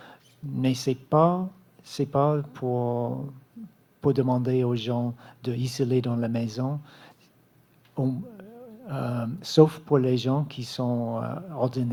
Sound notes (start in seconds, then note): 5.9 speaking French